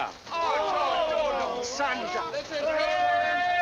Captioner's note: grumbling